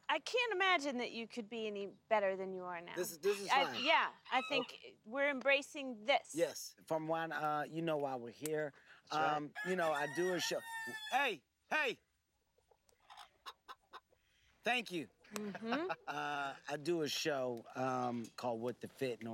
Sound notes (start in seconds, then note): 9.5 loud crowing; 13.0 clucking; 15.3 laughs